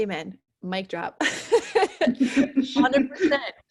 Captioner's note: laughs